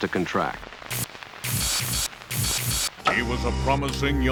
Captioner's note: electricity crackles